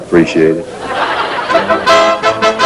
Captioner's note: laughter